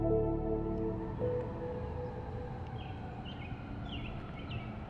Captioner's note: siren wails in distance; birds chirping